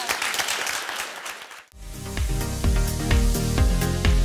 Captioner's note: applauds